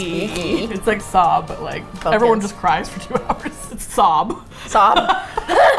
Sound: creepy voice; laughs; both laugh

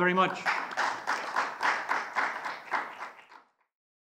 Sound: congregation claps

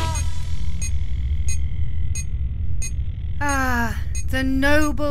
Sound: high beep

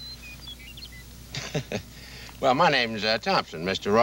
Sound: chuckles

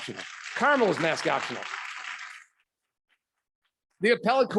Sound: audience clapping

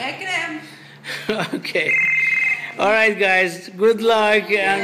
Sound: chuckles

